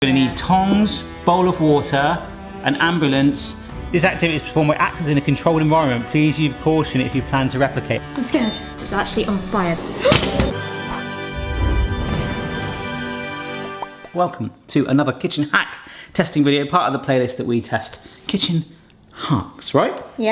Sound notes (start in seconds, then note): 10.4 gasps; 10.8 dramatic intro music